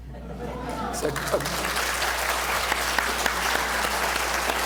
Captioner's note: applause